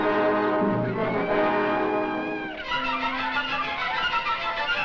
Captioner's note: monkey screeching